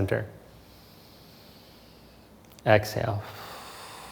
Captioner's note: inhales softly